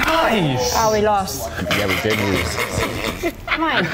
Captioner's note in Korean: 웃음